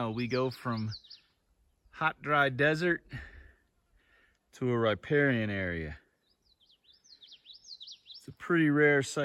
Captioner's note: birds chirping